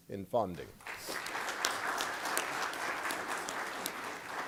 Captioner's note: applause